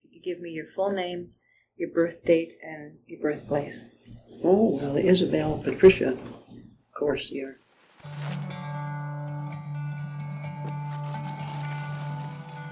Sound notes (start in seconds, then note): 7.9 skis hitting snow; 11.7 folk music, birds chirping